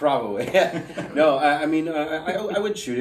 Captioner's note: laughing